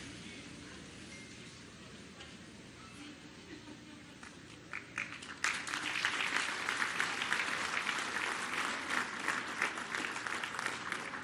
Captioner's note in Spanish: aplausos